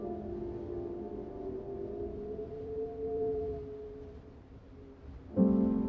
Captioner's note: wind howls